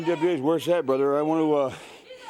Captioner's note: crowd cheering